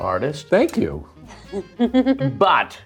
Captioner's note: laughs